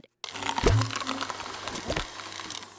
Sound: blender whirring

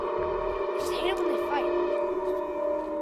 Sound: distant voice

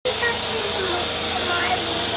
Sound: vacuum Noise

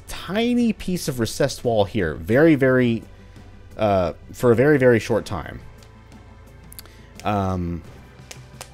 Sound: crackles knuckles

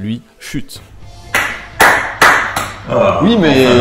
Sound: applauding

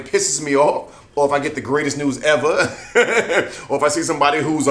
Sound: laughs

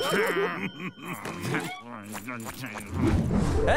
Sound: groaning; laughing

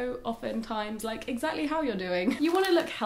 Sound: chuckling

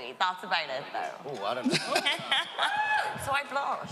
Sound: she laughs

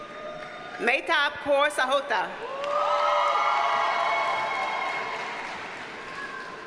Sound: audience cheers and applauds

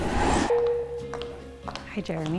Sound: techno bleeping

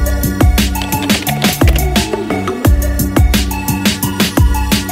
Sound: upbeat music; keyboard clicks

